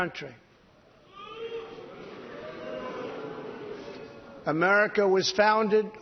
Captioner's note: jeering